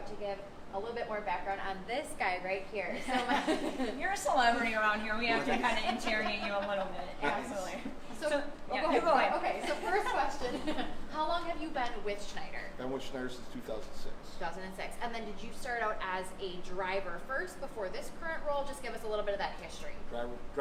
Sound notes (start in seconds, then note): 3.0 laughing